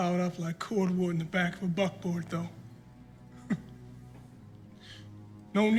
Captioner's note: chuckles